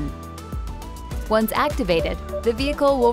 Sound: PDW beeping

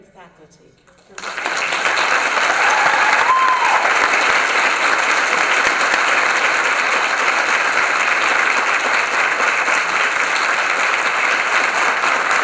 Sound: applause

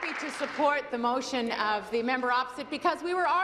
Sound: applause

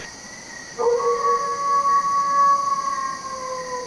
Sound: wolf howling

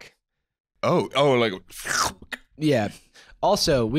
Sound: sucking noise

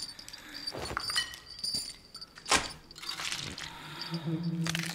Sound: metal clattering; dress rustling

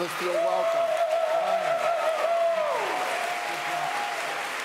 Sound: audience applauds

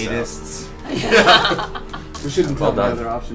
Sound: all laugh

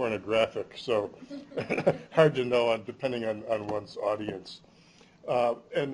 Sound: chuckles

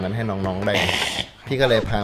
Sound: sneezed

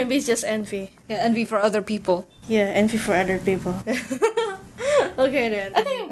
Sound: laughs

